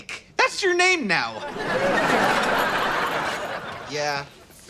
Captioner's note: audience laughter